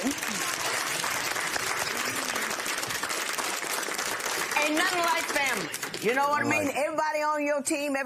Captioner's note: applause